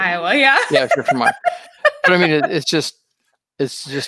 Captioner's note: laughing